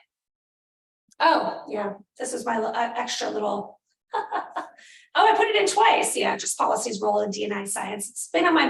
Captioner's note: laughter